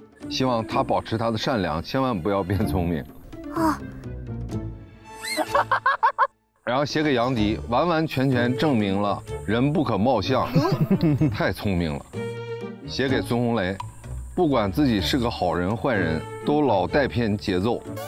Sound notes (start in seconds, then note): 5.2 laughing